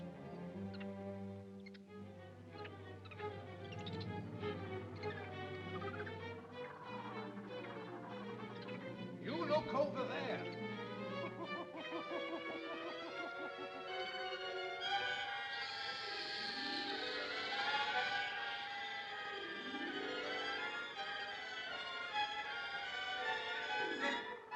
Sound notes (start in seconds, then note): 0.2 ominous music; 10.8 ominous music; 15.2 cobra hisses; 15.3 ominous music